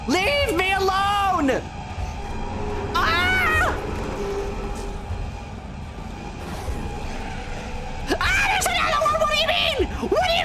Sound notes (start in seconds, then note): 2.3 Shadow roars; 6.4 monster growl